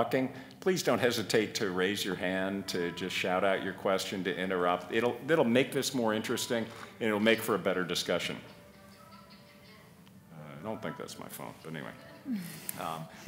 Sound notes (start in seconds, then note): 8.8 phone rings